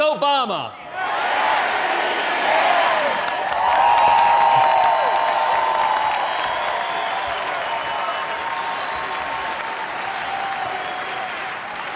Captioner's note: applause